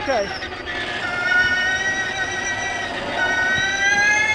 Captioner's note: engine revving